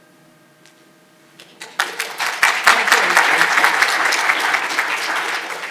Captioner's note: audience applauding